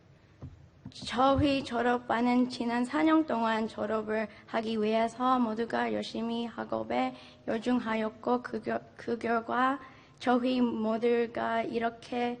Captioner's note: speaking in Foreign Language